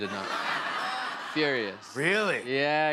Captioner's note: laughter